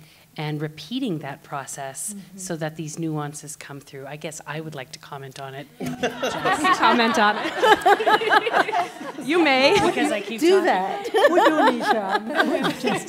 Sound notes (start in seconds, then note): 5.8 laughter; 10.7 simultaneous chatter and laughter